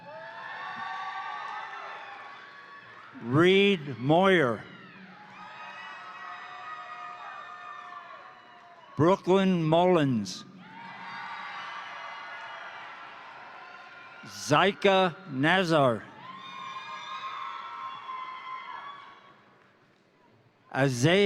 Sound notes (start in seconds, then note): 0.0 crowd applauding; 0.2 crowd cheering; 5.1 crowd cheering; 5.2 crowd applauding; 10.3 crowd cheering; 10.8 crowd applauding; 16.2 crowd applauding; 16.5 crowd cheering